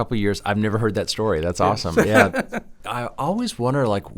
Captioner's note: laughs